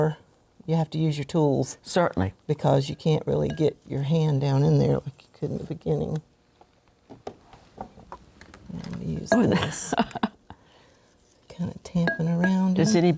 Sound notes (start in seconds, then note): 9.4 laughs